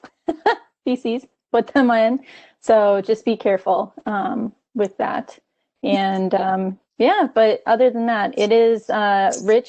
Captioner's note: laughing